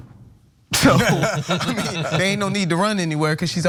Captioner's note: laugh